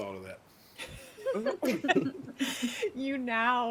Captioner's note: people laughing